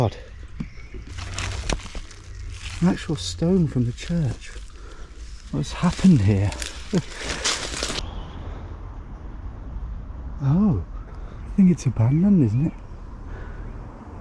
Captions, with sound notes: Oh my God. An actual stone from the church. What's happened here? (chuckles) Oh. I think it's abandoned, isn't it.